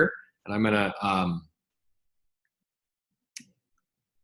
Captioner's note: mouse clicks